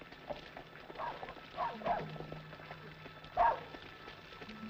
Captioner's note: dog barking